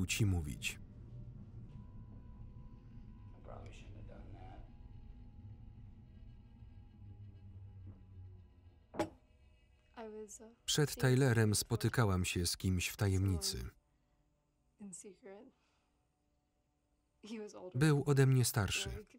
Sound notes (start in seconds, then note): 0.0 tense music; 8.9 glass thuds